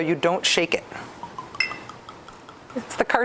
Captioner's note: whiskey plops